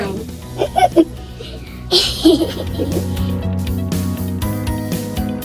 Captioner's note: laughter